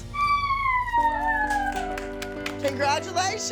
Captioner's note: cheering